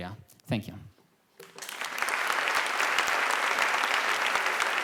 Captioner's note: applause